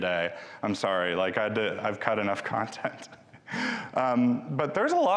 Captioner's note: chuckles